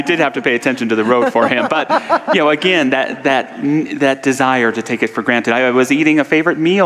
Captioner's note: audience laughter